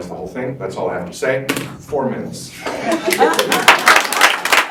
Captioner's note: remote drop. Laughter and applause